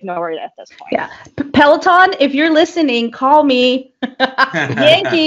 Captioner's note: chuckles